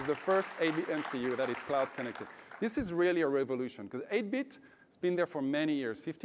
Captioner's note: applause